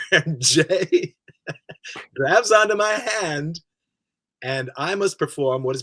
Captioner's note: he laughs